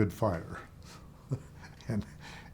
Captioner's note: chuckling